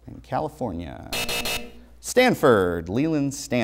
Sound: buzzer

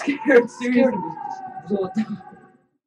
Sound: explained in Korean

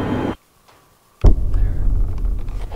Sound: tap

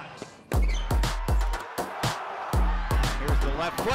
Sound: crowd cheering; upbeat music

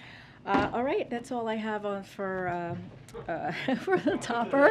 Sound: laughter

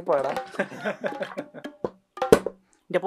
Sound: laughing

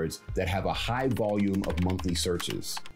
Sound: keyboard clicks

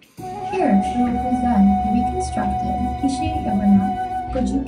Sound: guide continues in english

